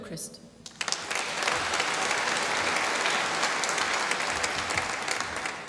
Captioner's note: applause